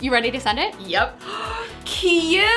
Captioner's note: gasp